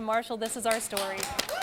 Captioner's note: �cheering and applause�